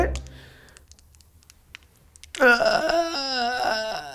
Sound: bones cracking

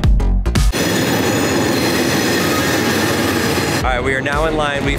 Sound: train brakes squealing

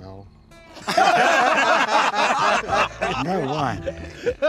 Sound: laughter

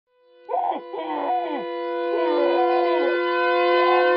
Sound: c̸o̷n̴f̷u̸s̶e̷d̷ ̸s̷c̷r̷e̵a̶m̸s̶

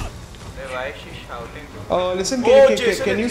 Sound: speaking foreign language

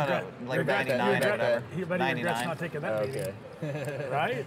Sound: laughing

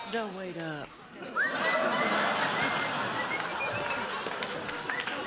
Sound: whistling; laughter

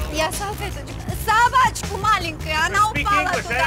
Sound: speaking in Russian

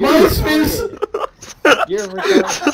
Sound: all of us laughing

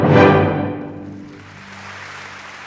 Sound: applause

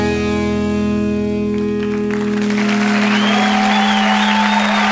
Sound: audience cheering

